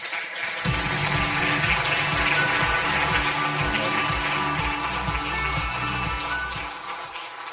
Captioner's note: audience applause; upbeat music